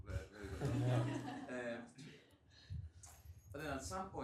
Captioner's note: laughter